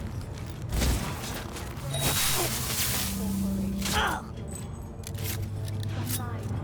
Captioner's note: grunting